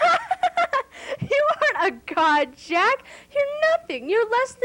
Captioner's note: laughter